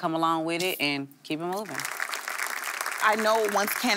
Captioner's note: audience clapping